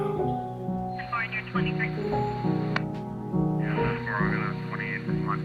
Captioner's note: police dispatch muffled